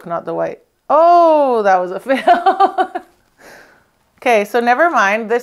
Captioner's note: laughs